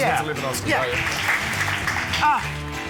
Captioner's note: applause